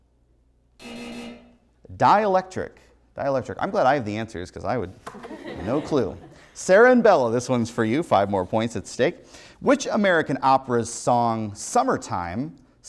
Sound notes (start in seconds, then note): 5.1 contestants laugh